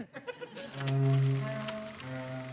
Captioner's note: film reel clicks